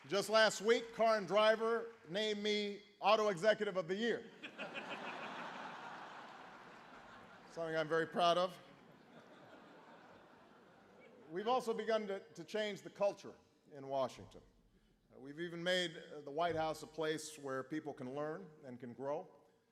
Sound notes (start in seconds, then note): 0.0 applause; 4.4 laughter